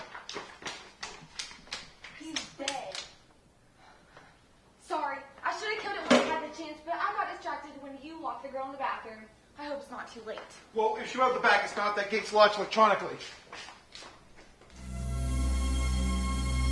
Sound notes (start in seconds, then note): 0.0 running feet; 6.1 thunk of metal; 13.2 running feet